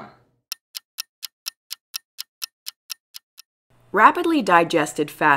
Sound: clock ticking

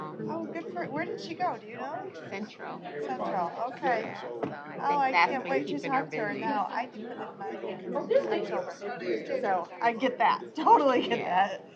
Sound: off-mic chatter

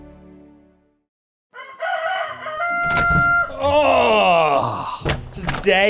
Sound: rooster Crowing

